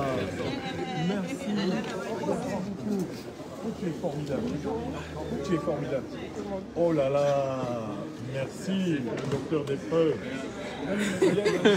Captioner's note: laughs